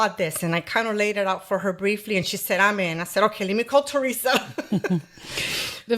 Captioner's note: laughter